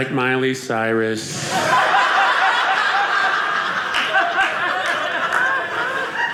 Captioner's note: audience laughing